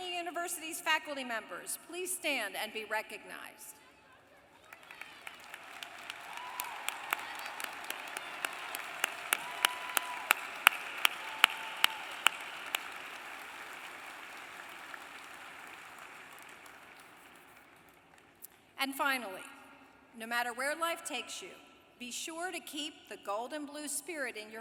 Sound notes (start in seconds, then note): 4.5 applause